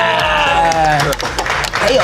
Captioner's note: clapping